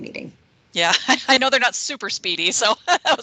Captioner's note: laughing